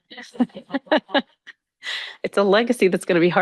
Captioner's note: all chuckling